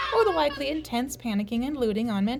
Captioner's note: children screaming